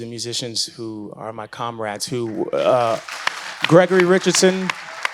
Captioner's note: audience applauds